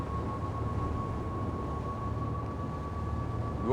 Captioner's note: boat engine roars